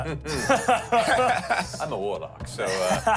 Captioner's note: chuckles